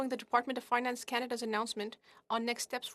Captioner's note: speaking French